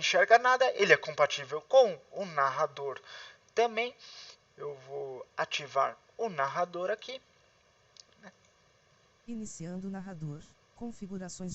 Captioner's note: Windows Narrator